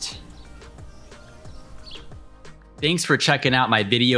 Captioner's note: birds chirping